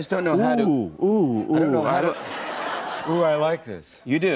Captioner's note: laughter